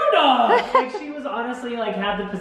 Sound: laughs

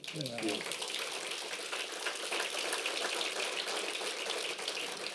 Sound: applause

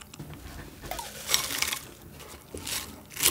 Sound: rustling down

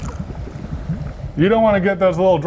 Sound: liquid nitrogen bubbling

